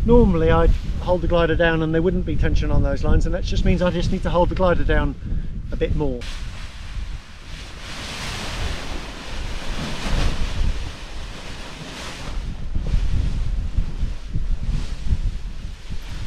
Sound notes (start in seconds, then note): 8.1 paraglider crinkling; 13.1 wind blows